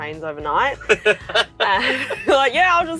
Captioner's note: both laughing